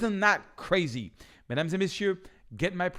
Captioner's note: speaking in French